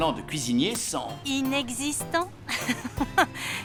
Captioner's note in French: rires